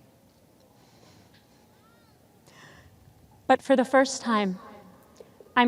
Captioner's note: none